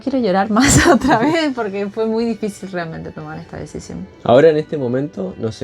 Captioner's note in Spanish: risas